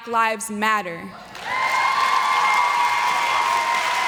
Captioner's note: applause